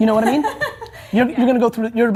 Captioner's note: laughing